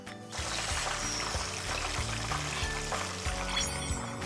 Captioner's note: wonderful sound - crispy pork cutlet